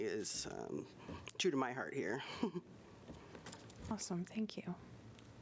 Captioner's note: laughter